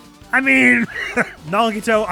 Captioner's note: wheeze